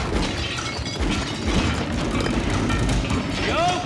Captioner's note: gunfire; clattering